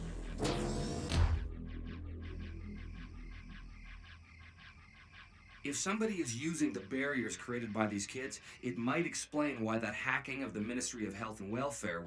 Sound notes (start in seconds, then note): 5.7 over comms